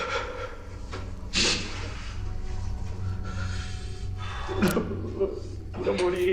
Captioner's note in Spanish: Sollozos